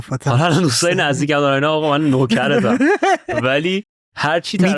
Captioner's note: laughs